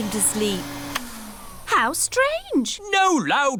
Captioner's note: whirring stops